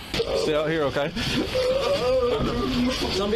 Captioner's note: sobbing